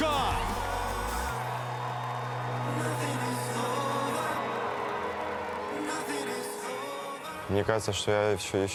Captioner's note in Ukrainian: оплески